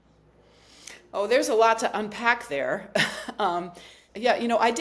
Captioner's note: chuckles